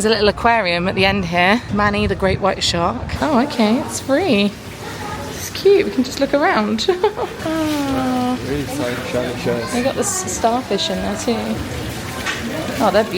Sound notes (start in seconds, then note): 6.7 giggles